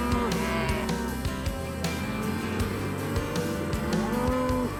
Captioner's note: cattle moo